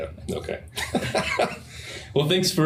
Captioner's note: laughter